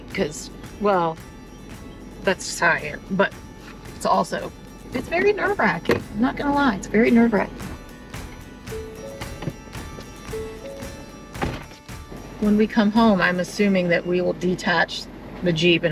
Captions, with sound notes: 'cause, well that's just who I am, but it's also, it's very nerve wracking. I'm not gonna lie, it's very nerve wracking. (bell rings) (upbeat music) (door clatters) When we come home, I'm assuming that we will detach the Jeep